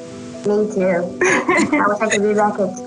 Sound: laughs

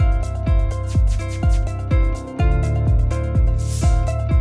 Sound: bright music; screen zapping; screen whooshing

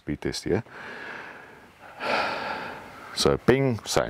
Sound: speaker breathing heavily

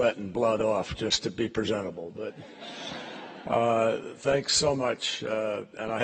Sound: laughter

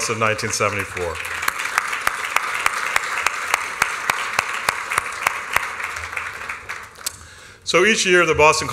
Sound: applause

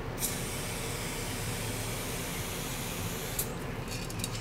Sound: spraying paint

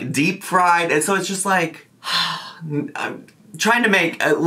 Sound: sighs

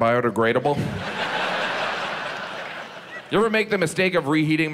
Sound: audience laughs

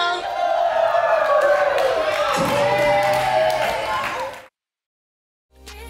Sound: cheering

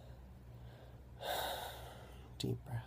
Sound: big breath in

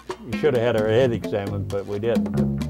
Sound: voiceover

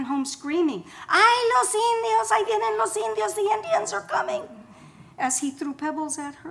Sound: foreign language

